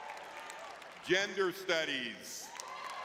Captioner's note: audience clapping; audience cheering